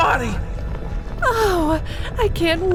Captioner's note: gushing